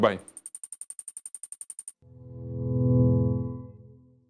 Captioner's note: high pitched clicking